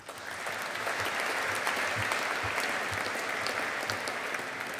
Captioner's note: audience applauding